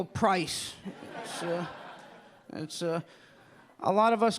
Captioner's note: audience laughing